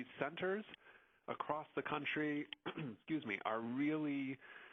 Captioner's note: coughs